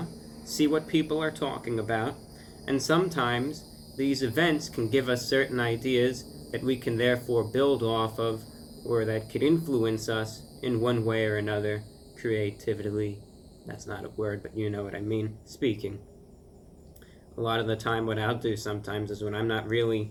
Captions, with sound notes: see what people are talking about and Sometimes these events can give us certain ideas that we can therefore build off of Or that can influence us in one way or another Creativitely, that's not a word, but you know what I mean, speaking. [Cicada's stop singing] A lot of the time what I'll do sometimes is, when I'm not really